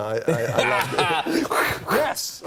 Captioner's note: laughs; light laughter